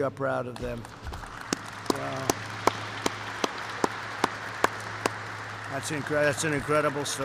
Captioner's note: applause